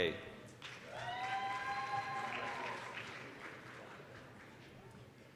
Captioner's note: applause, cheering